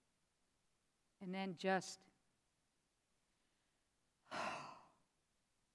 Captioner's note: heavy sigh